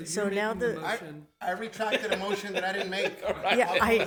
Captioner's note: laughs